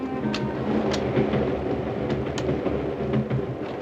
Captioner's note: door clicks open